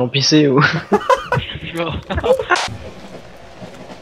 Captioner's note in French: Rire